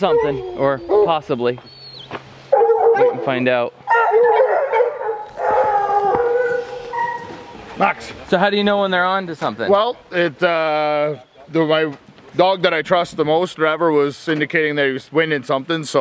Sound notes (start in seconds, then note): 3.8 distant dogs barking and howling